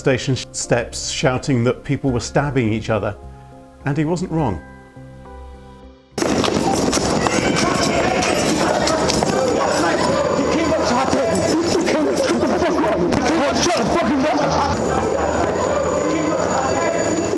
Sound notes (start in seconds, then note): 6.0 voices yelling; 8.5 clothes rustling